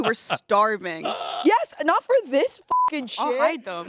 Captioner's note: beep